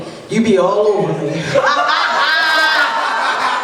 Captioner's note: laughter; laughs loudly